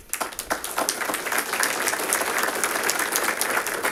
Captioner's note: audience applauding